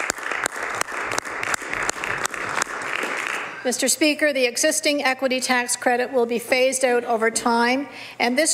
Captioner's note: some Applause